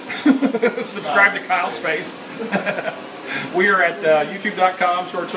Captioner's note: laugh